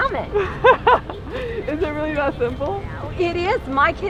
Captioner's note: laughs